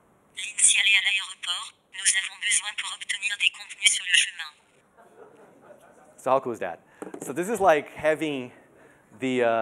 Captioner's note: speaking in French